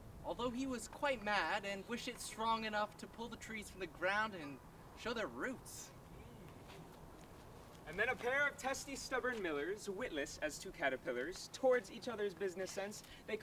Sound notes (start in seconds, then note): none